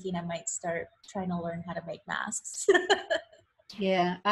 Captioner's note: laughs